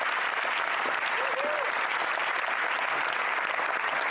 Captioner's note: applause